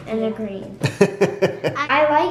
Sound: dad laughs

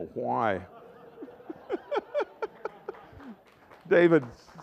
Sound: laughter

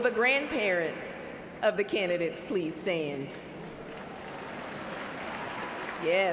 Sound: cheers and applause

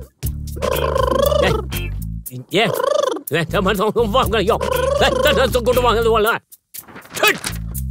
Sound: foreign language

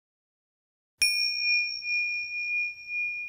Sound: bell ringing

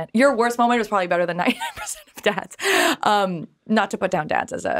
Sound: chuckling

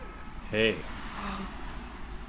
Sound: LIZA gasps

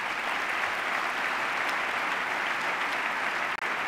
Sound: applause

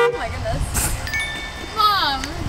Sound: truck horn; chime

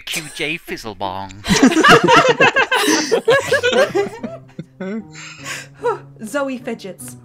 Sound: laughter

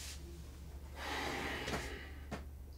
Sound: Nosa sighs

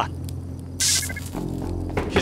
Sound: bzzt

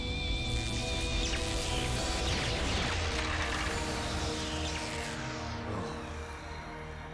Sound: electricity zapping

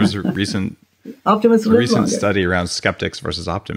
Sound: chuckles

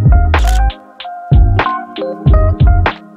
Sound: camera shutter clicks; mellow music; camera shutter clicks

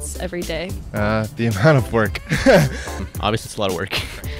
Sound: laughs

